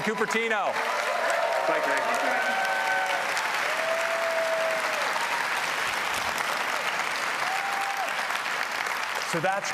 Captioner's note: applause